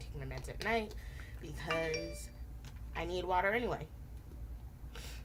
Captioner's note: phone dings